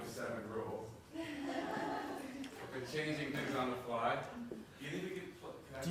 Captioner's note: laugh